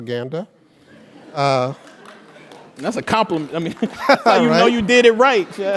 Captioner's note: laugh